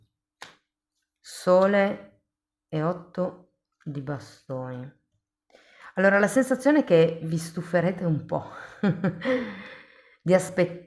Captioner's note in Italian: risate